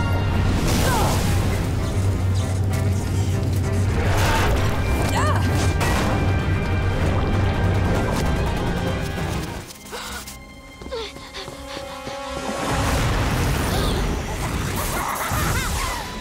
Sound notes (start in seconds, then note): 0.2 groaning; 4.4 grunting; 10.8 gasping; 14.6 laughing